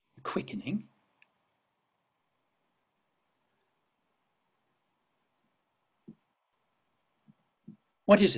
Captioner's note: silence